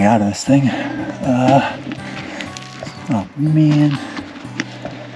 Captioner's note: breathing heavily